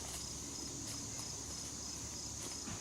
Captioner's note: leaves crunching